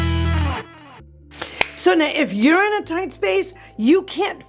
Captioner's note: hands clapping